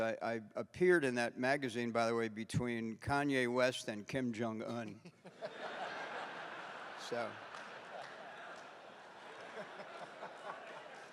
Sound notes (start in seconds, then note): 5.2 laughs; 5.2 audience laughing